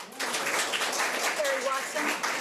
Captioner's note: audience applauds